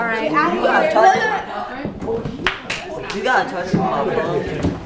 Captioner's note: crowd talking